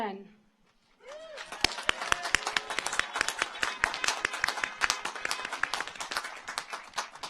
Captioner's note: car horns honking; audience cheers